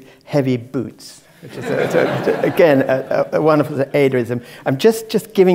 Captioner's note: laugh